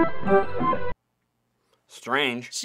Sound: silence

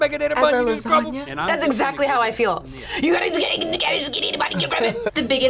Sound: babbles

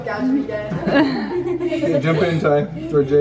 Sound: family laughs

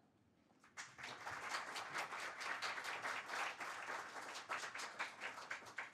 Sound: audience applauding

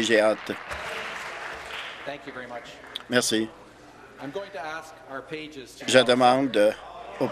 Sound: applause

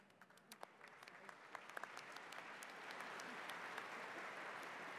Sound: audience applauds

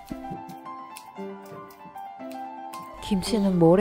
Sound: chop Chop Chop

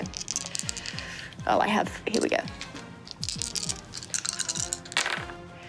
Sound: dice rattling

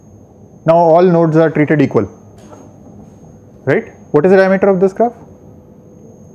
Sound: steps

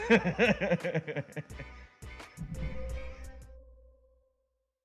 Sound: laughter

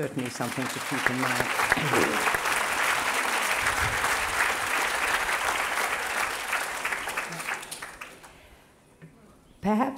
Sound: applause

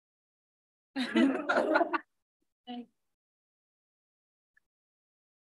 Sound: board members laughing

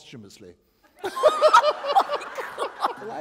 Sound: laughter

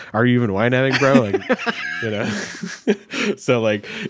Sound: chuckling

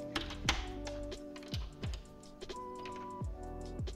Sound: camera clicking; soft music continues

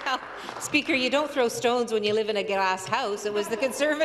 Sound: applause

